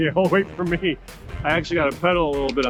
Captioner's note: laughing